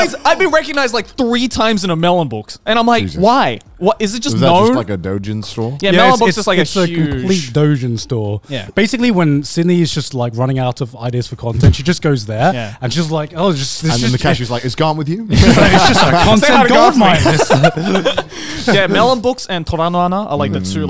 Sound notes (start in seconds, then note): 15.4 laughs